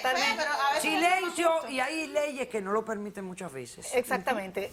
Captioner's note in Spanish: Hablan al unísono